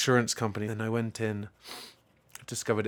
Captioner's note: sniffing